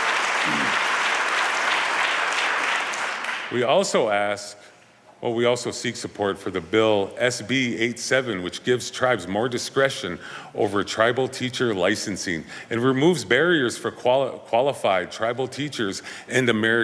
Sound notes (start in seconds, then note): 0.0 applause